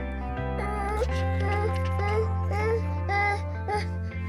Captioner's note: baby whines